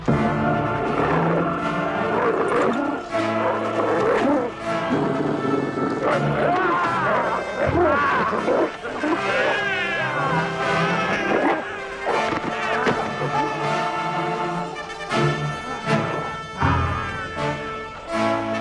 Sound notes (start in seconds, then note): 0.3 intense operatic music; 2.4 Beast growling; 6.7 Nepakin shouts; 9.2 baby crying